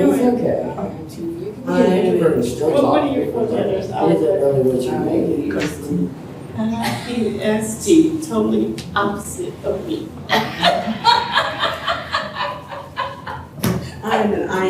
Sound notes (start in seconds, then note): 10.3 laughter